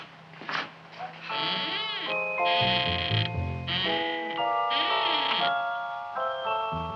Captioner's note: Audrey Jr. creaking; intriguing music